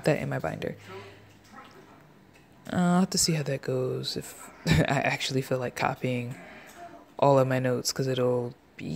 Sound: laughs

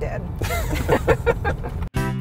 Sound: laughs

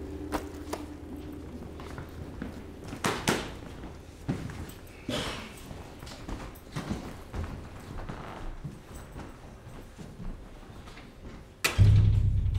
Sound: bell rings; footsteps

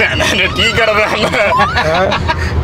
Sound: laughs

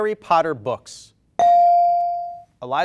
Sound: bell rings

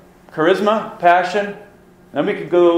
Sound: voiceover

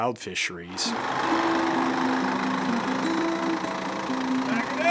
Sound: engine motor runs

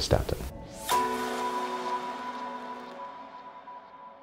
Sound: chime rings

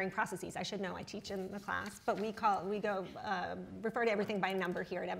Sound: none

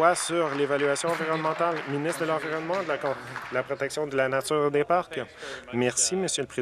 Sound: some Applause

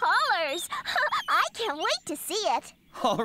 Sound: giggles

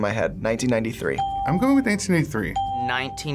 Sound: bell rings

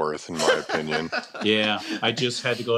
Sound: laughs

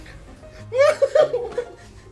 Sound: laughter

